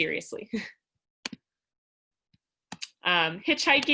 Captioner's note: laughter